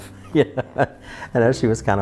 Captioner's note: chuckles